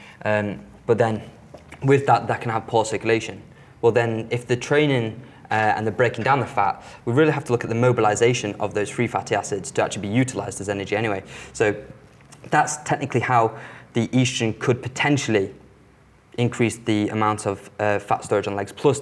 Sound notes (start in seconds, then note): none